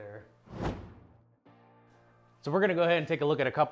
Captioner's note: whooshing